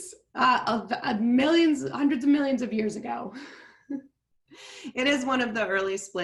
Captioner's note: giggles